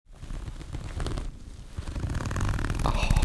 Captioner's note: zipper